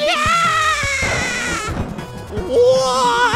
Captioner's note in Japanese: 雷の音